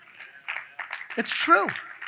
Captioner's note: audience claps